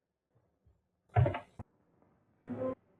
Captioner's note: door shuts